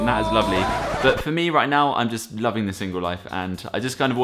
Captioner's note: record scratch